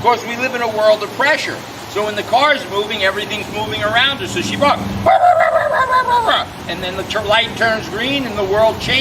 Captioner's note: barking sounds